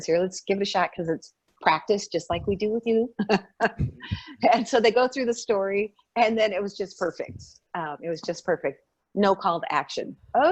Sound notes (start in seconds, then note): 3.5 laughing